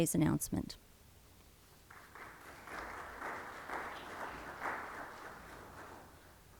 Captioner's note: applause